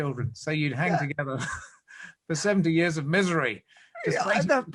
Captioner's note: laughs